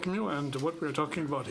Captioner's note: speaking French